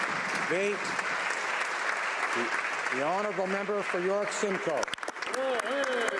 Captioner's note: applause